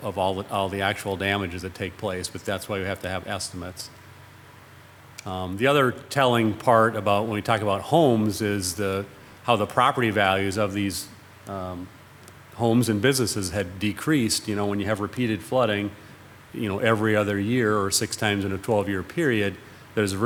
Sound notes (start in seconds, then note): none